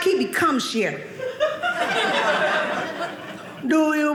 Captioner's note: audience laughing